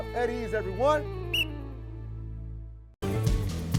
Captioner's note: whistle blows; upbeat music